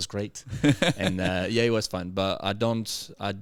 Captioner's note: laughing